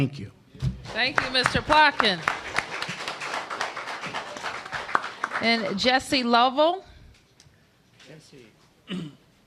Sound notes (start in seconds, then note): 4.0 applause